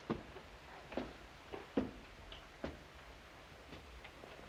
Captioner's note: footsteps